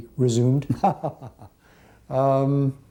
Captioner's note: laughter